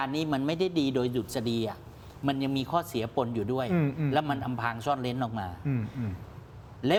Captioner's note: clears throat